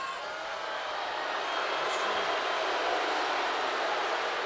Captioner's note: crowd boos